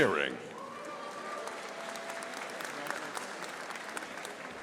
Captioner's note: audience applauding